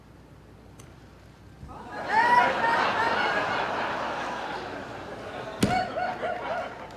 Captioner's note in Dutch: Gelach